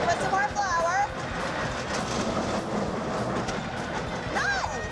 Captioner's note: machine grinding sound